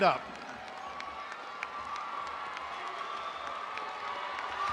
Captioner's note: audience applauding